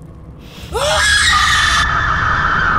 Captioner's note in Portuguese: grito